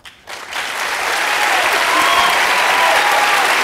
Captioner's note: applause